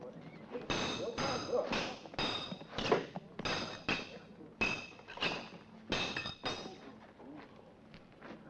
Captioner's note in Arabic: صوت السيوف